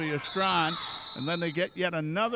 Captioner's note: referee whistling